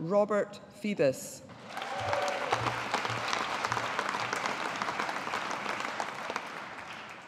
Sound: audience applauding

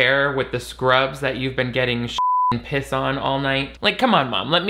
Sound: beep

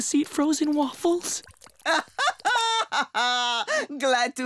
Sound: laughing

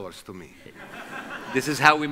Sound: audience laughs

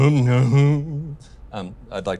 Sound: imitating Elvis

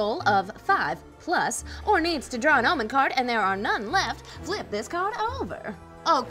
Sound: none

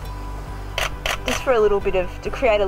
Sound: camera shuttering

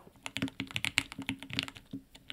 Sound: keyboard clicking

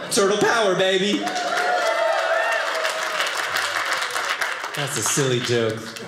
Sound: audience cheering

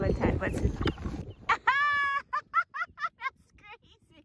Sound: laughter

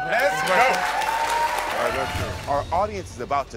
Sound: audience applauds

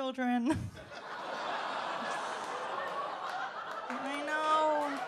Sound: audience laughs

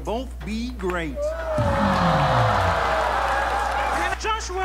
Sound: crowd cheers

